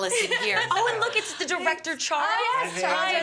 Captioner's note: laughter